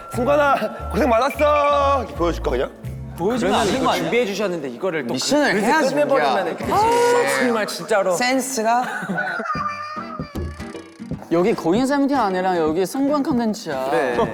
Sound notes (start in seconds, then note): 3.1 boos pouring in